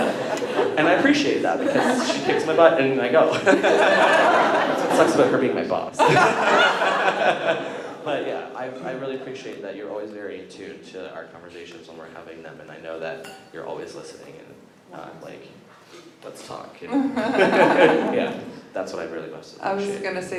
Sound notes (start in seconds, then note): 3.2 laughter